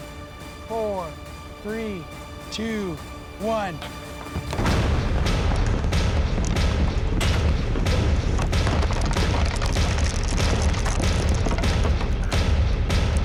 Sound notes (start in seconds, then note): 4.3 multiple explosions; 12.3 explosions continue, rocks falling